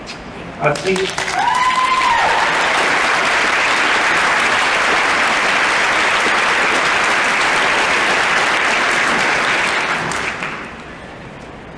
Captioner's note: applause